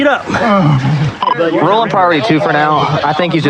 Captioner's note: groroans; radio chihirp